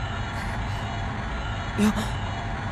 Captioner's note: relieved sigh